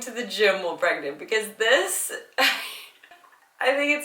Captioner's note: laughing